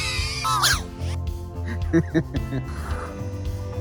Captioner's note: laughs